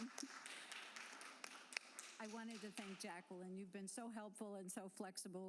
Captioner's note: applause